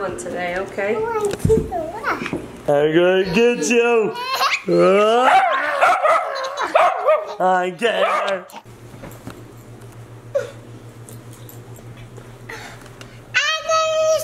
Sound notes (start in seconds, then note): 5.2 dog barks